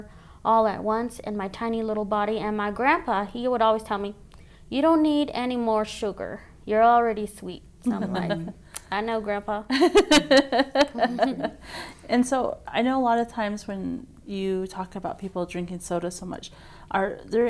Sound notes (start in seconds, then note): 9.7 laughter